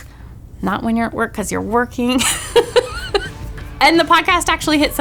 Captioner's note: laughing